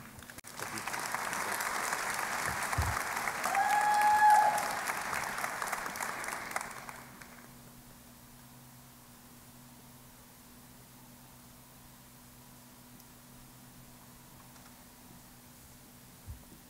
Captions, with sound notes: >> Thank you. Thanks. [ Applause ]